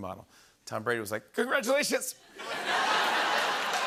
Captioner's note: voice breaking; laughter